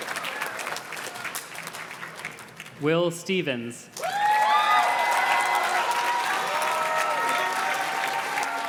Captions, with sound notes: Will Stevens. (audience cheers and claps)